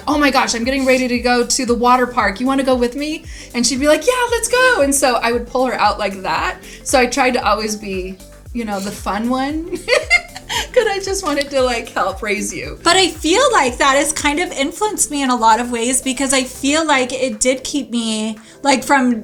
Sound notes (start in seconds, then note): 9.6 laughing